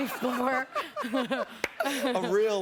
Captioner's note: laughter